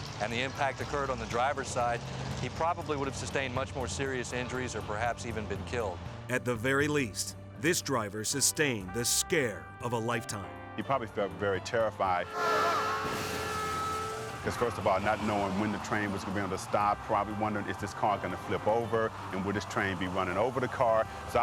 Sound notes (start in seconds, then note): 12.2 horns honking; 12.4 vehicles thudding